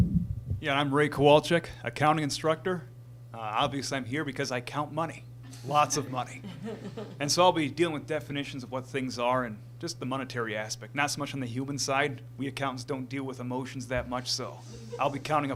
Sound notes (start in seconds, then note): 5.5 laughter; 14.6 laughter from crowd